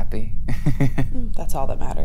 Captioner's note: laughs